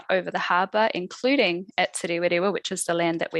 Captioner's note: non-english speech